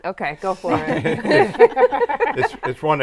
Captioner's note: all laughing